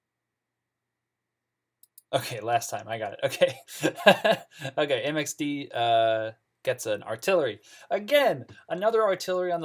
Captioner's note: laughs